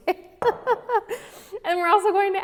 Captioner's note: laughs